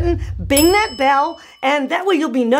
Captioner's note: object thuds; bell dings